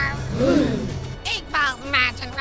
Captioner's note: gasp